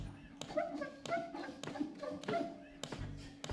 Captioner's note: squeaking